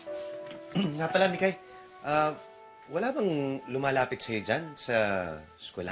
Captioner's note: clears throat